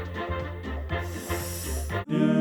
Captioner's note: big sniff